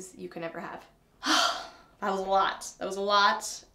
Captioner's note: sighs